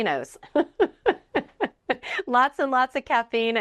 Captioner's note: laughs